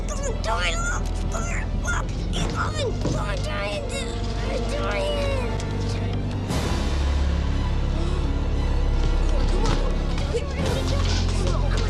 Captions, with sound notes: He's coming! Tommy, look! Look! He's coming! The giant, the giant! (foreboding music quickens) (Tommy gasps) - Come on, quick! - What are we doing?